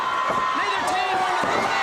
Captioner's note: crowd cheering